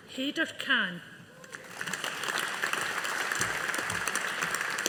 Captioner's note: audience applauding